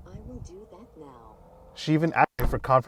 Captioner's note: car doors whirring